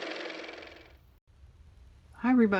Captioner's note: car motor